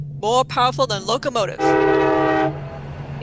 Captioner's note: train whistle blows, locomotive rumbles